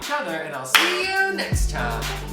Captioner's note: clapping